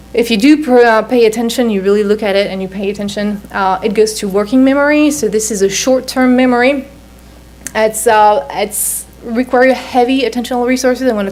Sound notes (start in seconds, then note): none